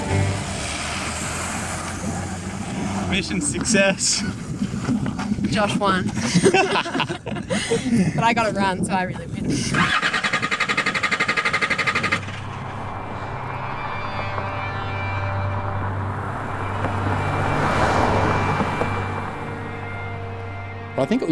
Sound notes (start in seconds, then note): 0.0 car engine roaring; 6.0 both laughing; 10.8 car engine revving; 10.8 soft music